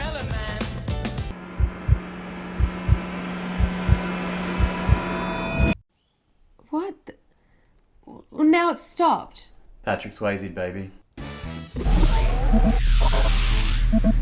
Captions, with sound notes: (heart thumps) What? Well now it’s stopped. Patrick Swayze baby